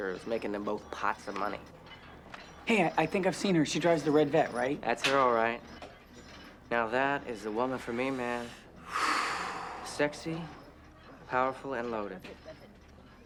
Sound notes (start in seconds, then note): 8.8 Bobby sighs